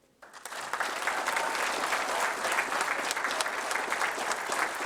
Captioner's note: applause